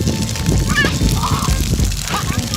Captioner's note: more squealing